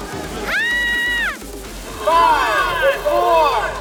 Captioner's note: screams; crowd screams